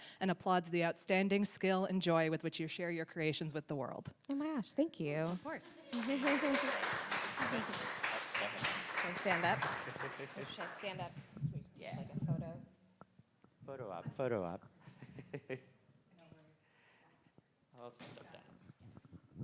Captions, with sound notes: "and applauds the outstanding skill and joy "with which you share your creations with the world." - Oh my gosh thank you. - Of course. (audience applauds) - Should I stand up? - Yeah, photo op.